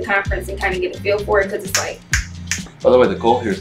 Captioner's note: snaps fingers